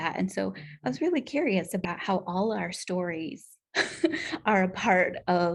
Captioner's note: laughter